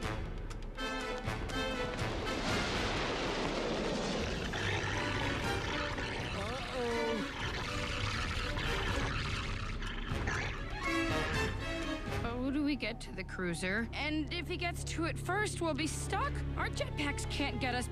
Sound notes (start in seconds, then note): 4.1 wirewolf snarls